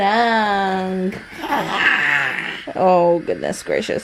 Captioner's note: growls